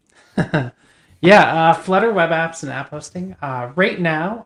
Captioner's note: chuckles